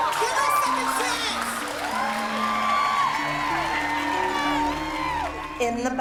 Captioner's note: cheering